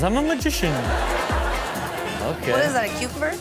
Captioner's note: crowd laughs